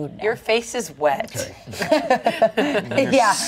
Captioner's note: everyone laughs